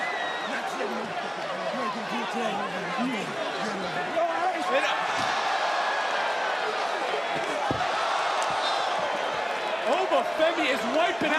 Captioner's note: yelling